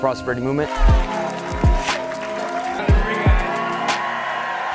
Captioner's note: cheers and applause